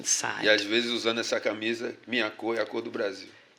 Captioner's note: speaking portuguese